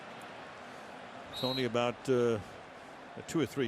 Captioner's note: crowd cheering